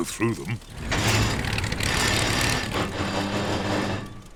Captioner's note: clunks and splutters